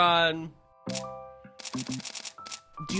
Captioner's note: camera shutter